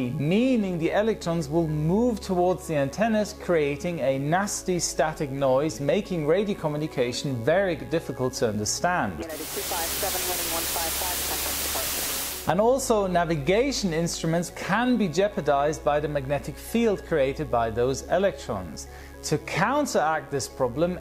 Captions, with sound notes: Meaning the electrons will move towards the antennas, creating a nasty static noise, making radio communication very difficult to understand. [radio transmission with static] And also, navigation instruments can be jeopardized by the magnetic field created by those electrons. To counteract this problem,